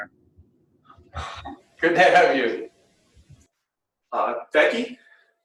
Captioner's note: chuckles